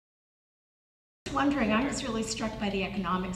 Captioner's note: voiceover